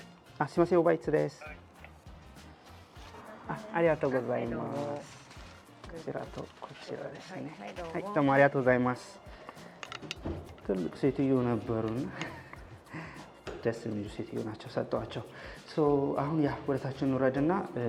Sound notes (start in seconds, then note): 2.4 Speaking Japanese